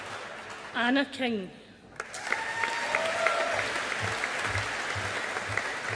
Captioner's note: audience applauding